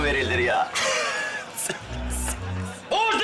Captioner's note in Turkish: Gülme sesi